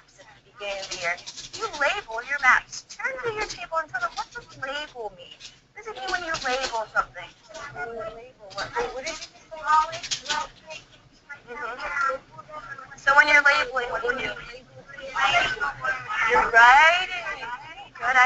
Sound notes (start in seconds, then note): 7.2 students talking